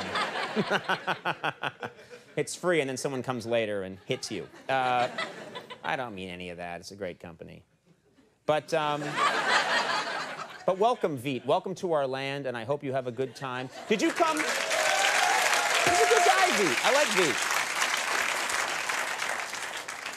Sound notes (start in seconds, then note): 0.2 laugh; 8.9 laughter; 13.9 crowd applause